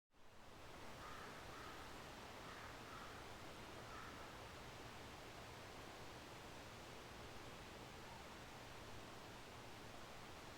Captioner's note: soft flowing water, spring birds chirping, gentle wind rustling trees